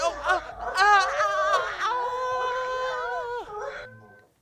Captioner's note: moans